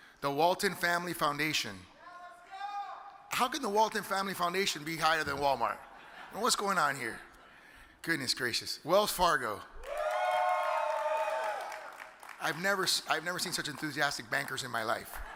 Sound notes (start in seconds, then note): 5.3 audience laughs; 9.8 audience hollers and claps